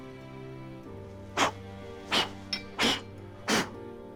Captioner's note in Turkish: Üfleme sesi